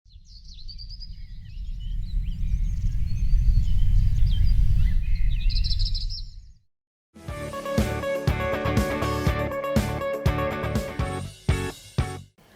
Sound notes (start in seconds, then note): 0.3 birds chirping; 7.2 upbeat music